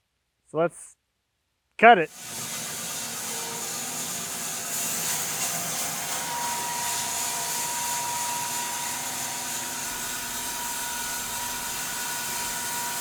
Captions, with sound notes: So let's cut it. (slab master whirring)